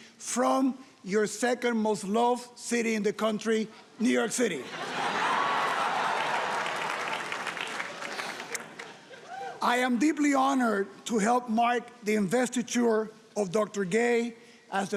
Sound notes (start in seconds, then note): 4.6 audience laughing and applauding